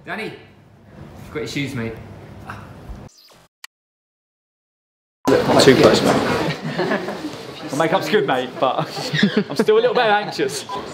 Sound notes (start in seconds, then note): 6.4 laughing